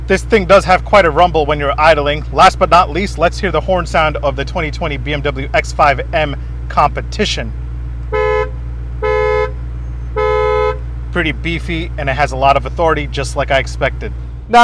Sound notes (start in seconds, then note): 8.0 car honking